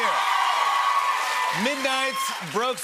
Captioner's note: cheers and applause